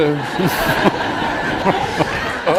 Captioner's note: laughter